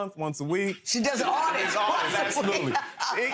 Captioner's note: laughs